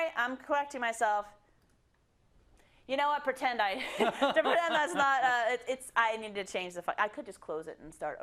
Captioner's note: laugh